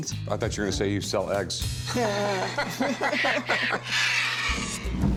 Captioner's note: laughter